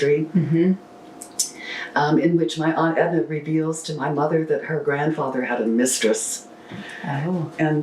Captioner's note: laughs